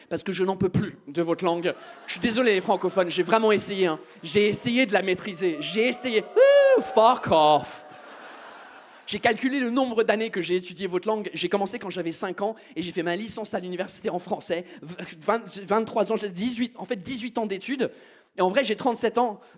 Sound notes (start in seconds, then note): 5.9 audience boos; 6.6 mocking noise, EN